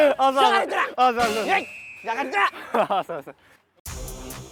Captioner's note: shouting